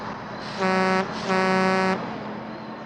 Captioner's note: horn honks